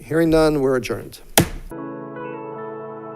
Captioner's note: gavel bangs; gentle music